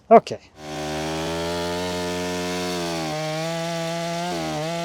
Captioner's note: chainsaw whirring